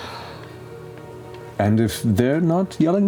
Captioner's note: sighing